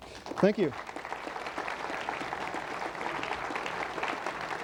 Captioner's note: applause